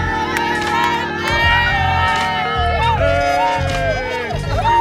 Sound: cheering

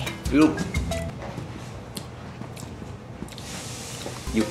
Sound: chewing…

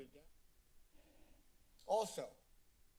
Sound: silence

